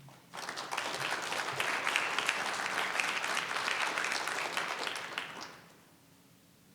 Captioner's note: applause